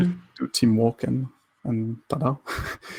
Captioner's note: laughs